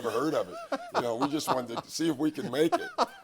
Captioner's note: laughs